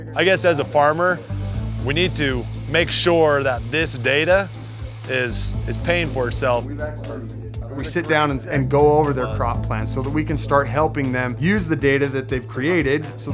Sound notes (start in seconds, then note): 6.8 team chattering